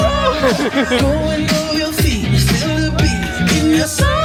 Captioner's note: laughing